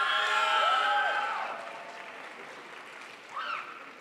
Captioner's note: crowd applauds